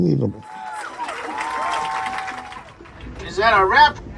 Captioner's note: audience applauding